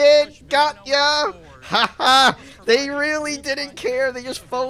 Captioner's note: laughs in cut content